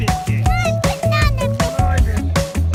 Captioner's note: child voice